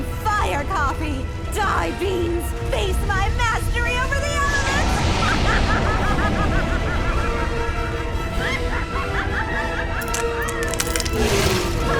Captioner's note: incredibly* worrying laughter; cracking noises